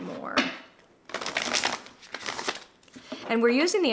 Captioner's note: cards flapping